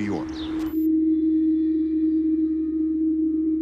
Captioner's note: humming